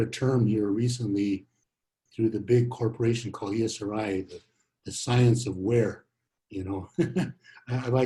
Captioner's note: laughs